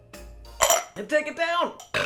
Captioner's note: glasses clink; belches